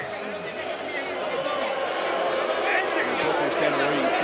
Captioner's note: crowd boos